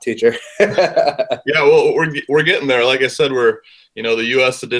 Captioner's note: laugh